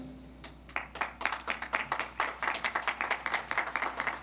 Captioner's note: audience applauds